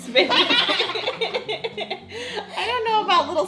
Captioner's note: laughs